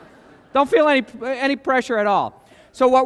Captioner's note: laughter